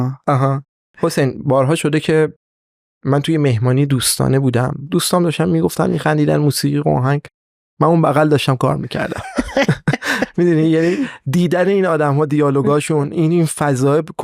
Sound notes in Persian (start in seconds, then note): 9.0 خنده